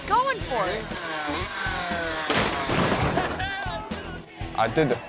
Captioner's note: dirt bike rumbles and thuds